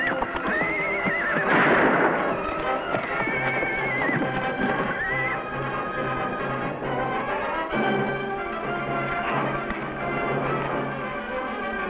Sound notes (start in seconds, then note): 1.4 gunshot; 4.3 horse neighs; 9.2 intense music